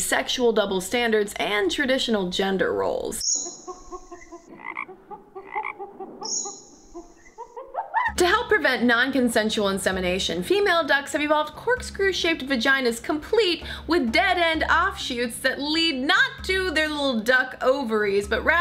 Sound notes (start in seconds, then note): 3.1 jungle sounds